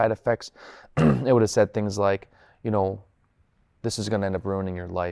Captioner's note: clears throat